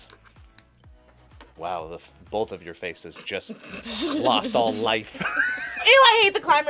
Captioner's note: laughs